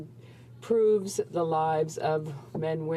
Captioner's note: speaking French